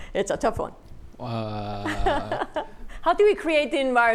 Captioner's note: laughs